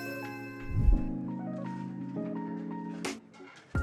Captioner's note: bells chiming; air whooshing; light music continues